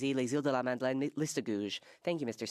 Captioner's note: speaking French